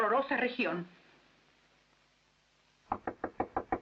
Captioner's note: knocking